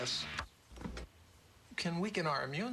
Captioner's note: turns off radio